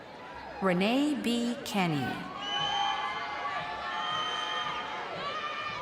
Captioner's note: crowd cheering